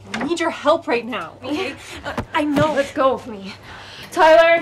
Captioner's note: none